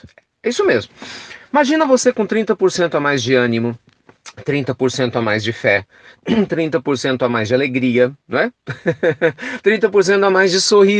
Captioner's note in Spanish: risas